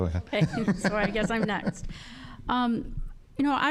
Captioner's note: laughing